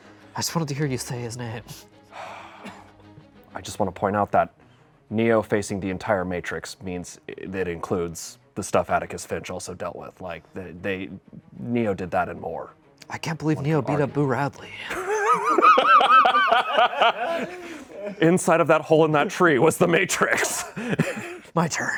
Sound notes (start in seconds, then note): 2.2 sighs; 14.8 laughs